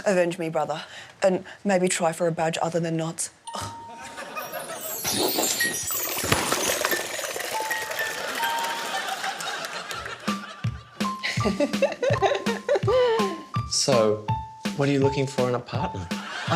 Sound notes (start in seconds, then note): 5.0 liquid gushes